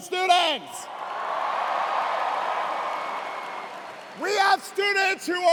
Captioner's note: cheers and applause